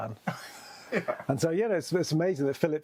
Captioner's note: laughs